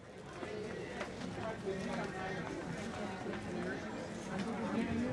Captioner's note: people chattering